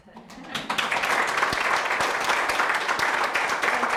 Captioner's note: applause